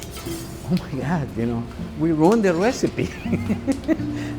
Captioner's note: laughs